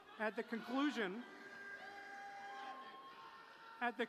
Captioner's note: cheering